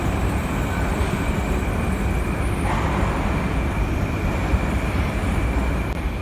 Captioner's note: arrival of another train at the station